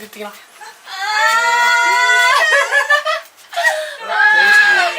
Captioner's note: patrons cheering